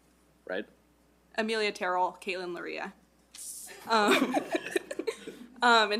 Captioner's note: laughs